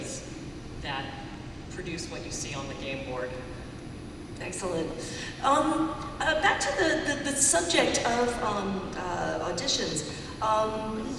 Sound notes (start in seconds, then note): none